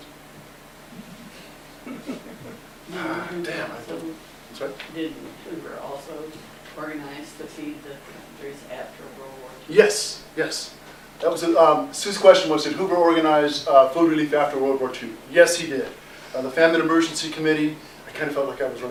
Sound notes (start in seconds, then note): 1.8 laughter